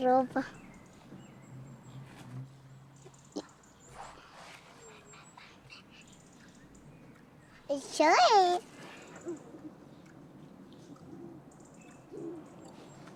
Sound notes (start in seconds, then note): 6.8 exclaims